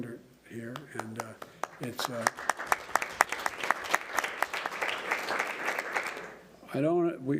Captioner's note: applause